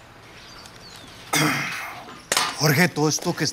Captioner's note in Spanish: carraspea